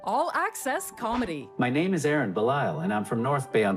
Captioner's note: text to speech